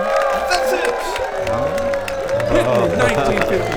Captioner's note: applause